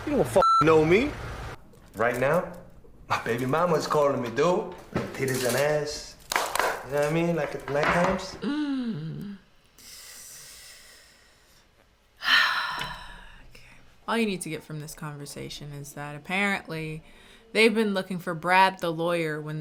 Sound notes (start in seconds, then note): 0.4 beep; 8.4 sighs